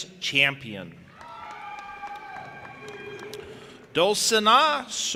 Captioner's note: audience applauding and cheering